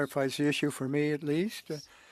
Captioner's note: speaking French